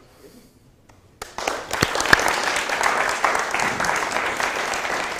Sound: applause

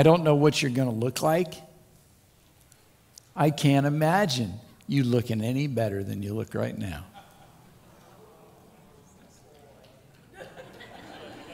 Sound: laughter

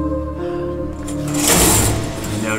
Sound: curtain slides open

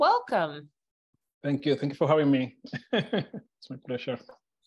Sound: chuckles

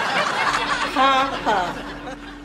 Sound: laughs; sarcastically

